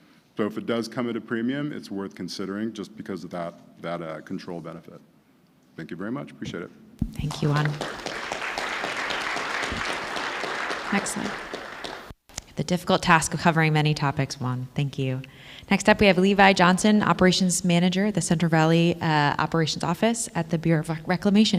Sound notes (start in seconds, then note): 11.8 applause